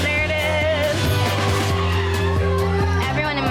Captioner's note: upbeat music; women cheering